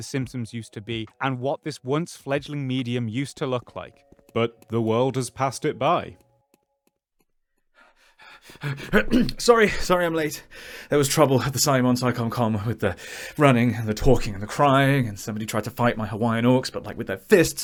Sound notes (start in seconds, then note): 8.9 clears throat